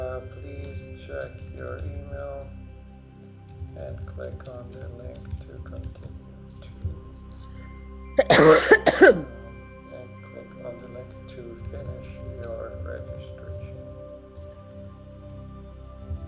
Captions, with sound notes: Please check your email and click on the link to continue. (Client coughing) And click on the link to finish your registration.